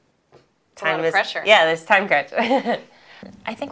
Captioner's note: laughter